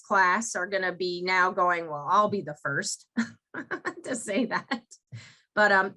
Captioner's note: laughs